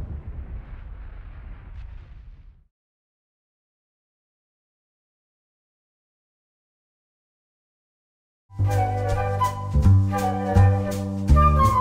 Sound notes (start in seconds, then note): 0.0 whooshing sounds